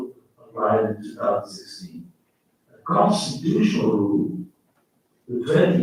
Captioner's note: faintly speaking